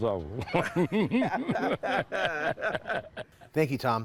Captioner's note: laughing